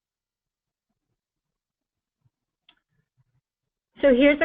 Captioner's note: pause